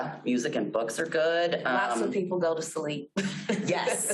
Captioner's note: laughs